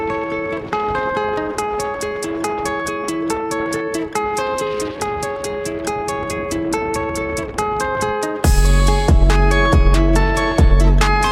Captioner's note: strong wind